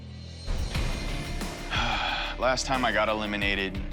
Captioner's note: sighs